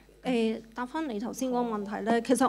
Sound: Cantonese

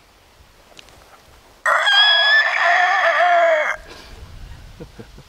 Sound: imitating elk bugle

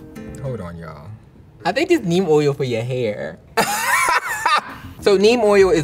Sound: piano music; laughs

